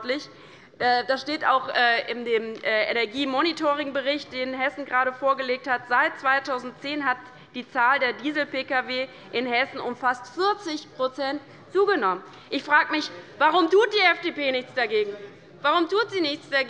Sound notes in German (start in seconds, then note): none